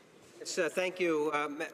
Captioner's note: speaking French